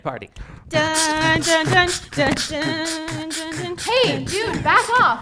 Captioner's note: making musical sounds